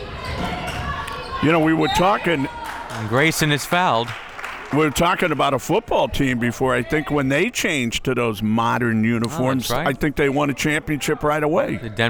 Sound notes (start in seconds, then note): 2.7 whistle tweeting